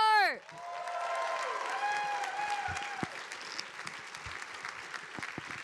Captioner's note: audience applauding